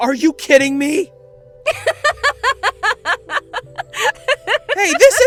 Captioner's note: Lunis laughs